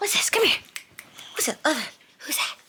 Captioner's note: palm thumping; fingers snapping